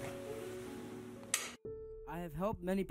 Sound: flicks switch

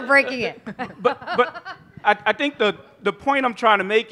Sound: laughter

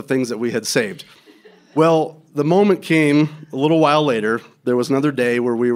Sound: laughter

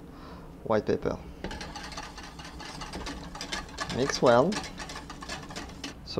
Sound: whisking sounds

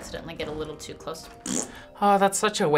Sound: makes fart noise

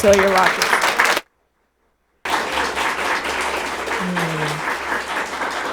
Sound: audience applauding

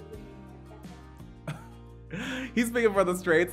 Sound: laughs

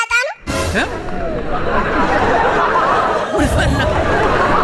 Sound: laughter

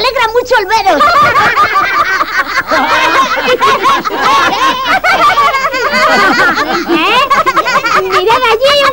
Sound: laughing

